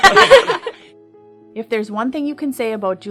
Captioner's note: laugher